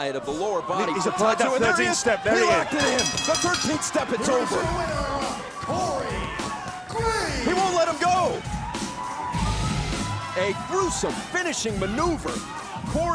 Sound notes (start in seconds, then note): 4.9 bell ringing; 10.6 crowd cheering